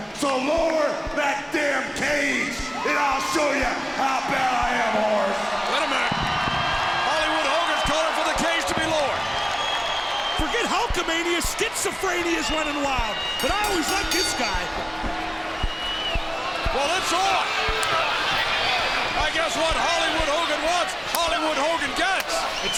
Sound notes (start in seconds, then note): 15.9 bell rings